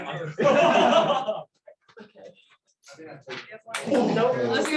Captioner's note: laughter